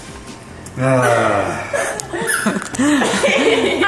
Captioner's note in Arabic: تضحك; يتنهد بصوت عالٍ